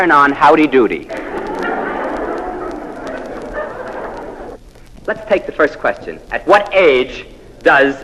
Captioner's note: laugh